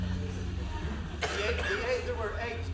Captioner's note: laughter